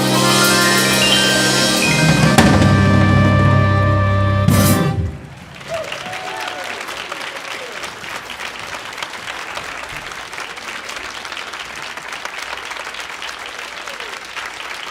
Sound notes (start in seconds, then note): 4.7 audience applauding; 5.7 audience cheering